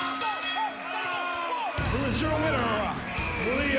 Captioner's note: bell ringing